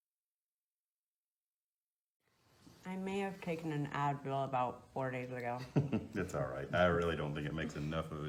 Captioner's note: doctor laughs